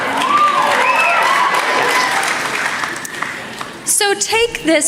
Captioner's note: applause